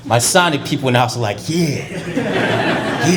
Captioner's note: laughter